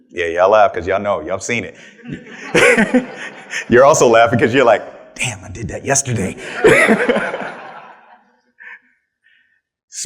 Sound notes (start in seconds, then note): 1.8 attendees laughing; 6.3 attendees laughing